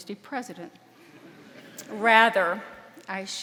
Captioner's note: audience laughing